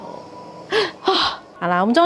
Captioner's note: tearful, deep breath